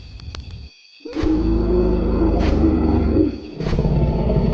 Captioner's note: dinosaur growling; feet stomping